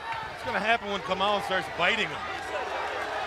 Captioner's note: crowd chatter